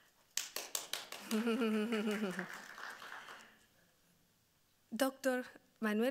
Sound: audience clapping; laughing

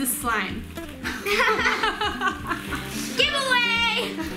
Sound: laughter

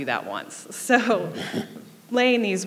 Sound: laughing

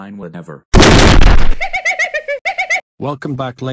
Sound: giggling

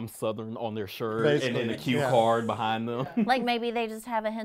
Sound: chuckles

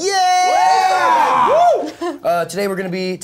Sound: cheers

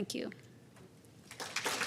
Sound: applause

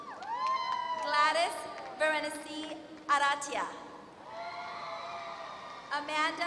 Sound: applause; applause

